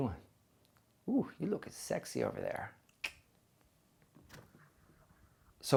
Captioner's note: clicks